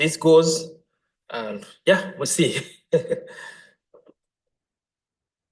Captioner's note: laughs